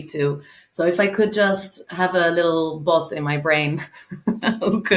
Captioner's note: chuckling